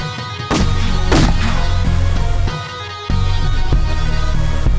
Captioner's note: gun firing; orchestral music